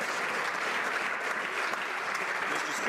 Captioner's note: some Applause